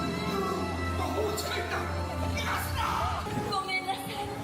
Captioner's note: Duke speaks Japanese; Elsa speaks Japanese